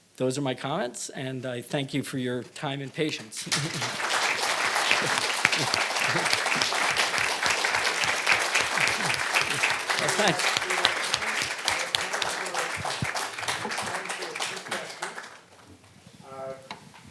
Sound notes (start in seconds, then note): 3.9 audience applauding